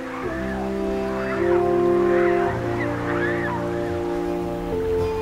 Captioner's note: pelicans squawking